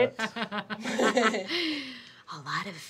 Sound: laughing

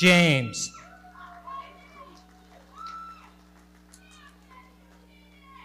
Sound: audience cheering

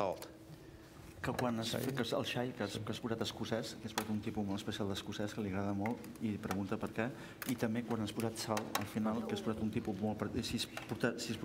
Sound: speaking catalan

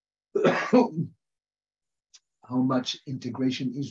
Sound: coughs

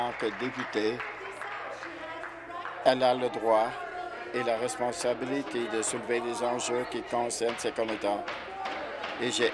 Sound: applause

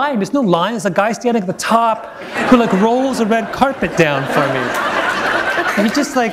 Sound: laughter

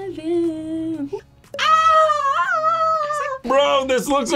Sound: screams

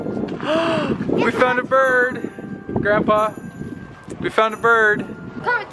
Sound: gasps

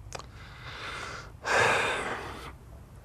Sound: sigh

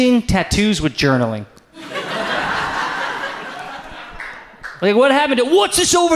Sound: audience laughs

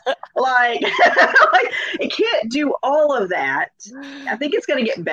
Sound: laughs

